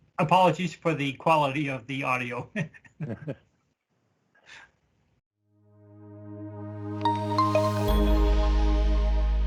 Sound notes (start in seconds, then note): 2.5 chuckles; 5.7 cool music